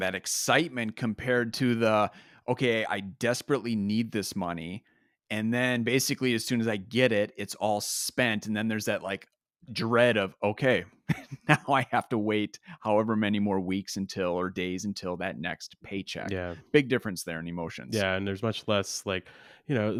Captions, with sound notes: that excitement, compared to the, okay, I desperately need this money. And then, basically, as soon as I get it, it's all spent. And then there's that like dread of, okay, (chuckles) now I have to wait however many more weeks until or days until that next paycheck. - Yeah. - Big difference there in emotions. - Yeah, and there's much less like...